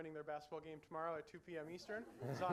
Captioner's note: laughing